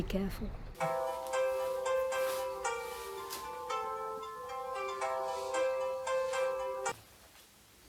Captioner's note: phone is ringing